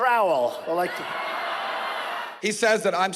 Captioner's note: audience laughing